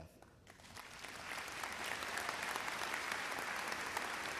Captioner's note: crowd applauds